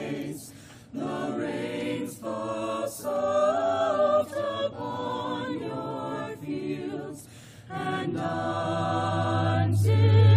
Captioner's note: audio feedback